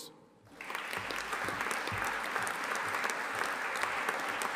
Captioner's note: audience applauding